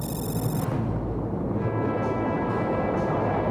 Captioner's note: car alarm